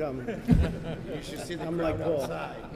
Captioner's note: laughter